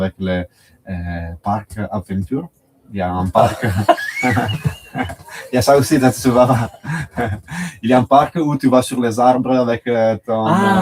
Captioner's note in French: rires